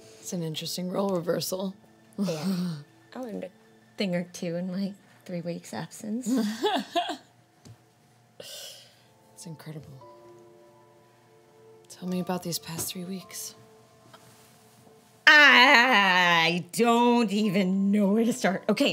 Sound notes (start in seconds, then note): 6.2 Elle laughs